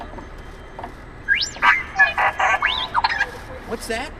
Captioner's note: R2D2 beeps